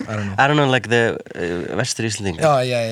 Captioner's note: Icelandic